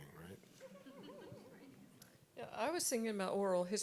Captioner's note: audience chuckling